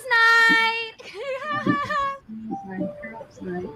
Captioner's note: cheering and laughing